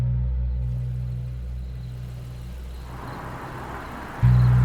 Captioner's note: crickets chirp